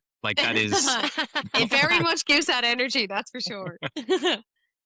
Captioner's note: laughter